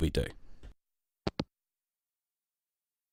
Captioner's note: hangup